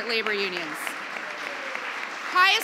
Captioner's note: applause